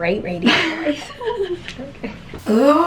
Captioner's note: both laughing